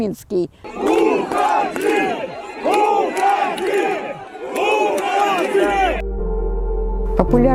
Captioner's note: People chanting "Leave!" during Dziady on November 2, 2020